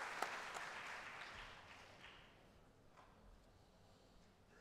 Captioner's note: applause